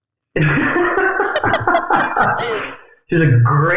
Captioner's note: laughing